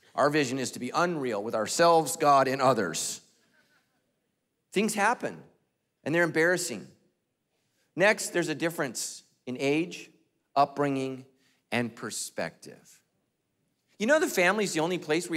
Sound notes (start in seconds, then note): none